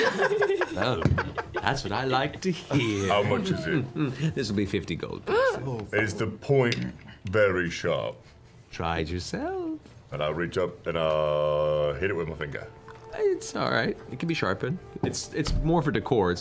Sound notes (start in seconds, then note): 5.0 gasps